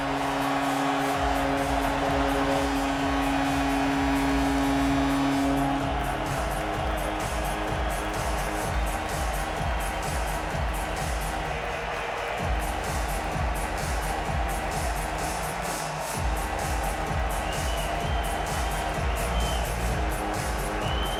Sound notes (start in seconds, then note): 8.9 cheering and APPLAUSE